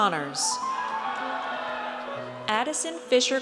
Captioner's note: audience cheers